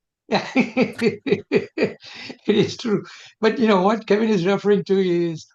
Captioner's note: laughter